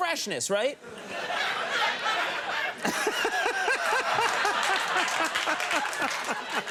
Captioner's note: Conan and audience laughing